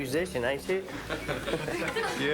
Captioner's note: laughing